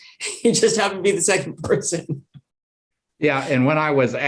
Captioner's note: chuckles